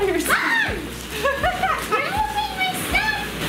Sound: laughs

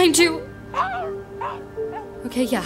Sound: soft growling

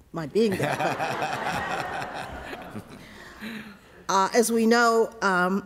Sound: laughter

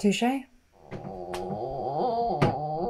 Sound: moans

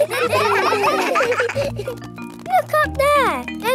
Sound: children laughing

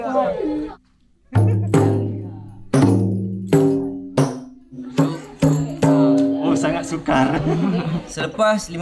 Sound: laugh; drum play

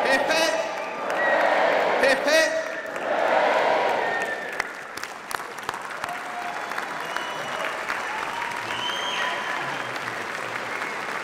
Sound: applause and cheering

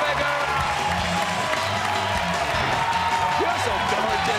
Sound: cheers and applause

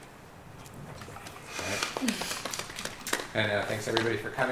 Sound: applause

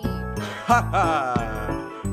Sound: laughs

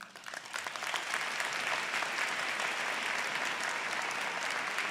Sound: applause

